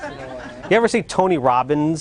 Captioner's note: laughter